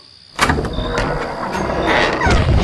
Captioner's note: big Front door opens